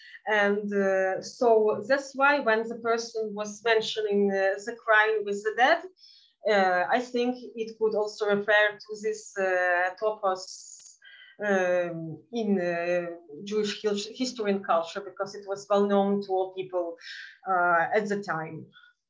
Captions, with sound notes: And so that's why when the person was mentioning the crying with the dead, I think it could also refer to this (speaking in Yiddish) in Jewish history and culture because it was well known to all people at the time.